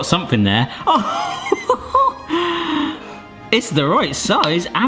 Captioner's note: laughing